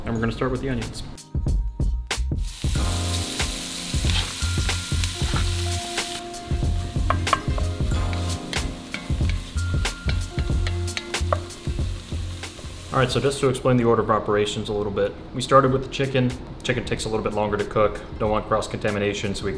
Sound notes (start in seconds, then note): 2.6 harmonizing vocals; 2.6 mellow music; 4.1 sizzling; 7.6 spoon clanking